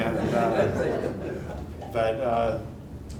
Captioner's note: audience laughing